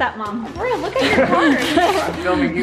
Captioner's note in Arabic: ضحكات خافتة من الكريستال